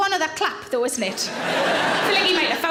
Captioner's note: audience laughs